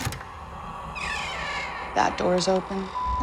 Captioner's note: ghostly rasping, door creaking